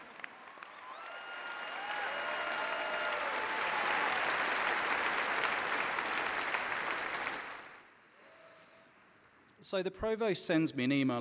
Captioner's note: applause